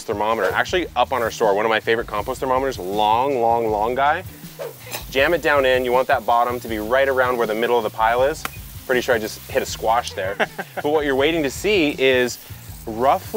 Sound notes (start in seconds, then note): 10.1 laughing